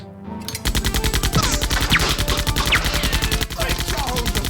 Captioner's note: rapid automatic gunfire